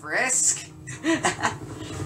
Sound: laughs

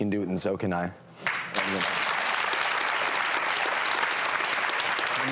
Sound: audience applause

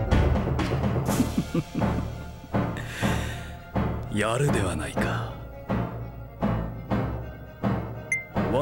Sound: laughing

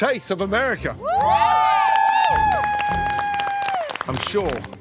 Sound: cheering

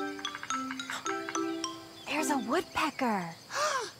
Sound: Tobee gasping; gasping

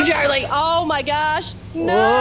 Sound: laugh

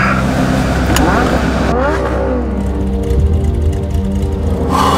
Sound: engine revving

